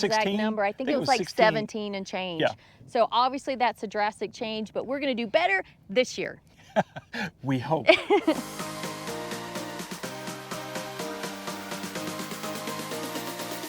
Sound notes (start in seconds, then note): 6.6 laughs; 10.9 upbeat music